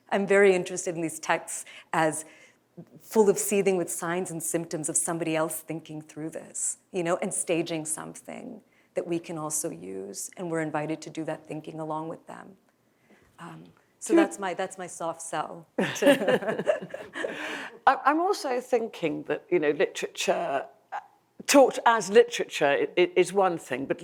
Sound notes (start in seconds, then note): 15.8 laughs